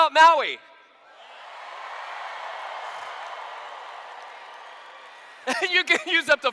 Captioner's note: cheers